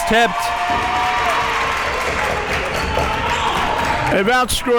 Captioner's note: audience cheering